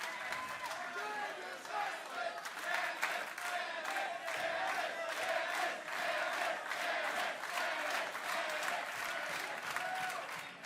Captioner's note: crowd cheering